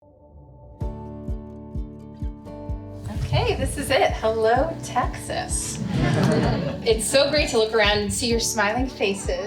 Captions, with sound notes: [Driving music] Okay, This is it. Hello, Texas. [audience laughter] It's so great to look around and see your smiling faces.